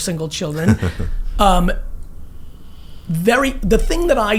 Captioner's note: laughs